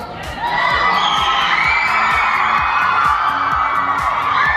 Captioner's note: audience cheering